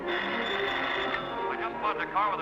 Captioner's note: telephone ringing